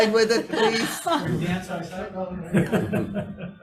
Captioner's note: laughing